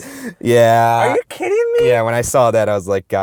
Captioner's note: voiceover